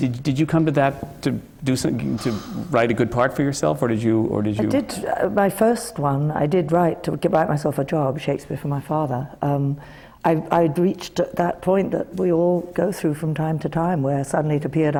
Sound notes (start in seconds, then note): none